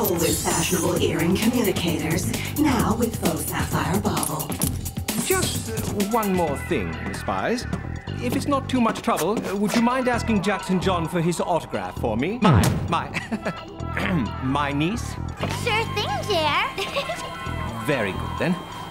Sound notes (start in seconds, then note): 13.0 chuckles; 16.7 chuckles